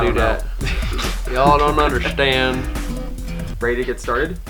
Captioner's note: in southern accent